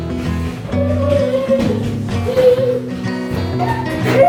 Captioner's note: child moaning